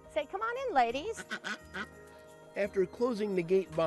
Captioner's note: duck quacking